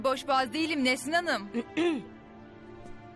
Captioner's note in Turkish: Boğaz temizleme sesi